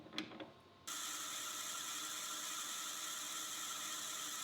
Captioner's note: machinery whirring